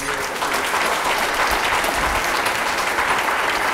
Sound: applause

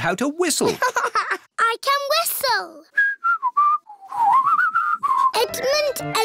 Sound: laughs; whistles

